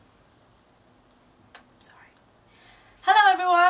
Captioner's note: whispering